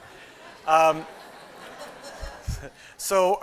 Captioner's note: laughter; chuckles